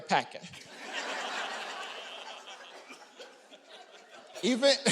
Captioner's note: audience laughing